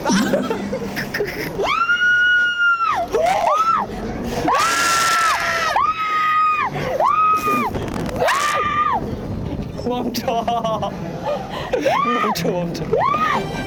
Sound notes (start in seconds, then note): 4.4 Same screams as on the Viking